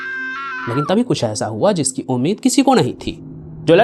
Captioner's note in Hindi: चीखने की आवाज़